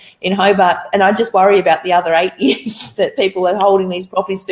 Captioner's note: laughs